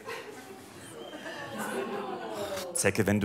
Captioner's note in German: Publikum mitleidig